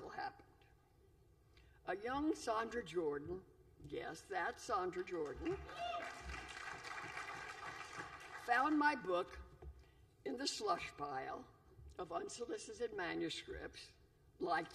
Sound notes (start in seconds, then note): 5.2 applause